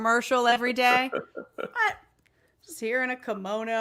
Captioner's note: chuckling